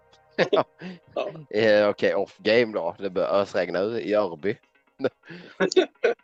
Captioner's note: laughing